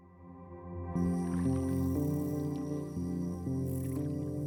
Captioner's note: gentle water rippling